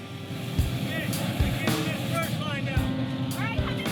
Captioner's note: yelling orders